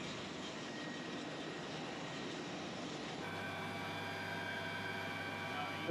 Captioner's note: background airfield noise